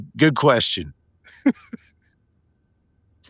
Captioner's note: laughing